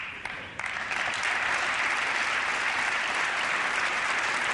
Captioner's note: applause